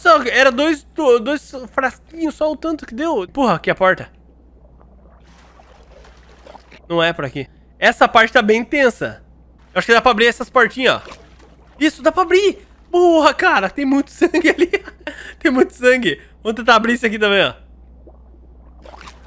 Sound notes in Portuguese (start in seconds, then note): 14.2 risos